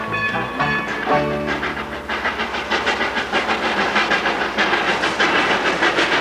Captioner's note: train chugging